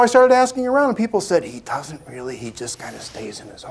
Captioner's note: whispering